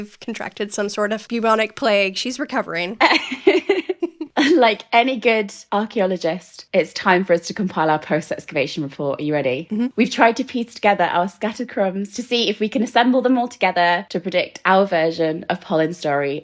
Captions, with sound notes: contracted some sort of bubonic plague, she's recovering. (laughing) - Like any good archeologist, it's time for us to compile our post excavation report. Are you ready? - We tried to piece together our scatter crumbs to see if we can assemble them all together to predict our version of Polin's story